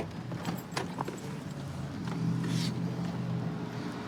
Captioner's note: distant traffic hum